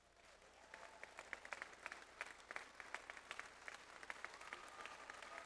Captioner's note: audience applauds